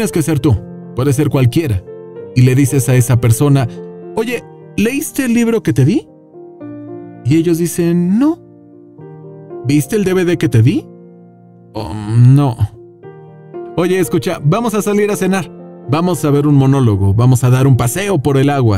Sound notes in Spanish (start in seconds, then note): 8.7 voz triste